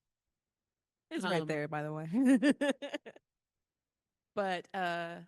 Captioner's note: laughs